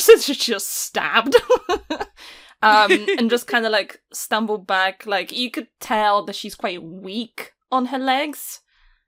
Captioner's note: laughs